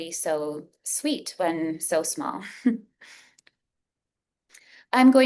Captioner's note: chuckles